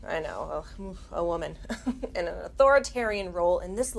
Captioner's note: chuckles